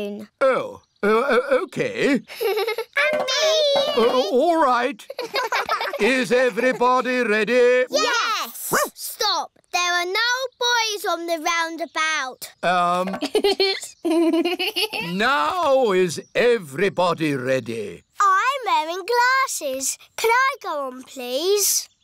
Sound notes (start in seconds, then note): 1.0 laughs; 5.0 laughter; 8.4 barks; 13.0 laughs